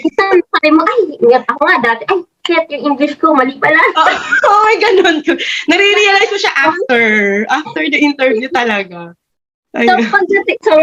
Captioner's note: both laughed